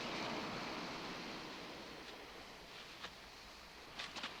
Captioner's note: none